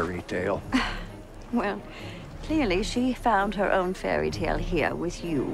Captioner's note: sighs